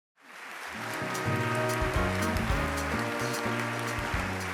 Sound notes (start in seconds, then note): 0.2 audience applauding; 0.8 slow gentle music